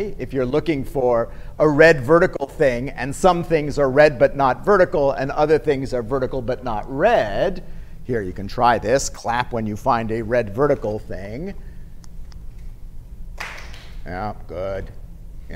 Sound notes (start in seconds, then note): 13.4 clapping